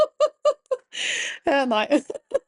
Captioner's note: laughs